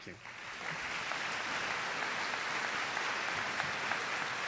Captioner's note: applause